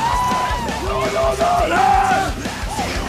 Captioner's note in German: Schlachtruf